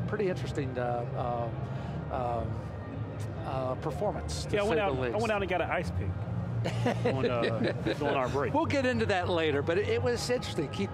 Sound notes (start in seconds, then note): 6.6 man laughing